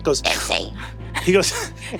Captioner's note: strained